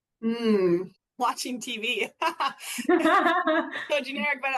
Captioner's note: laughs